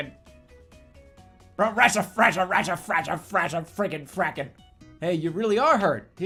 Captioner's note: more angry rambling